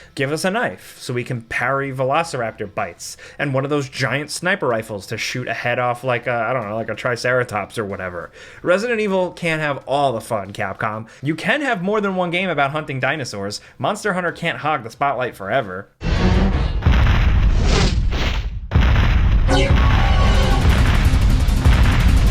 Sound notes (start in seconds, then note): 16.0 footsteps pounding; 19.9 intense dramatic music